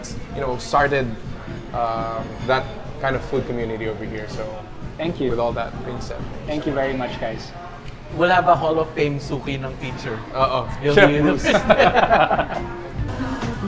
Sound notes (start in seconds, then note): 11.2 laughs